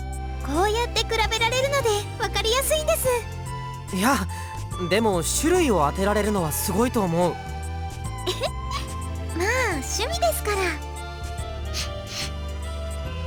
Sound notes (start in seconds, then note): 8.3 chuckle; 11.7 sniff